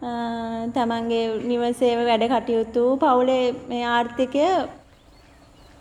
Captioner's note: speaking in a foreign language